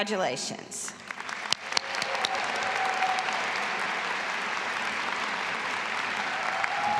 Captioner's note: audience applauding and cheering